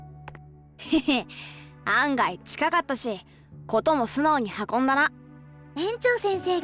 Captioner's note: chuckle